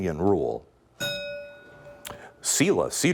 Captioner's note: bell ringing